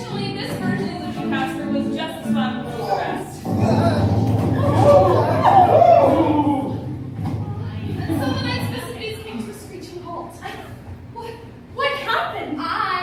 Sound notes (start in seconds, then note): 3.5 crashing noises; 4.6 voices crying out in fear